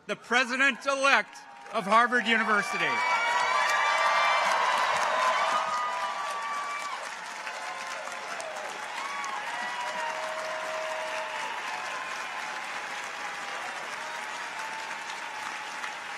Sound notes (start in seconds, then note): 3.3 audience applauds; 3.3 audience cheers